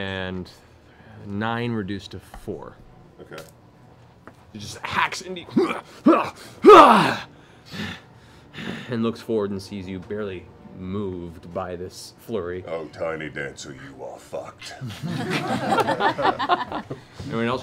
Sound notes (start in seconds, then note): 5.5 grunts; 14.8 laughing